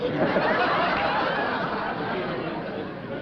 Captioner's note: chuckling